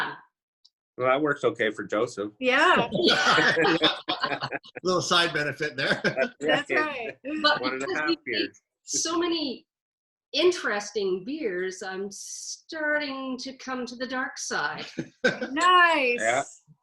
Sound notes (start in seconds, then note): 2.8 everyone laughs; 6.2 chuckles; 14.8 chuckles